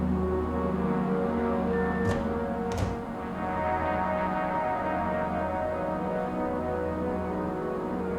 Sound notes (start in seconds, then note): 2.0 microwave door opens and closes